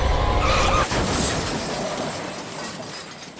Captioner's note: screaming and loud clatter